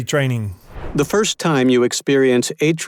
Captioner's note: read Aloud Voice